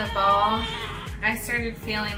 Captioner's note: baby crying